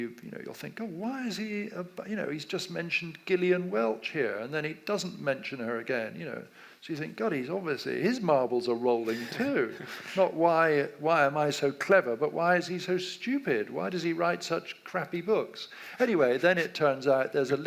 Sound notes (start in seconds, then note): 9.0 laughs